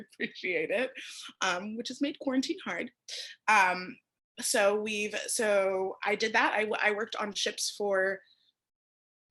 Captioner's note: laughter